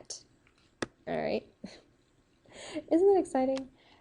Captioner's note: giggles softly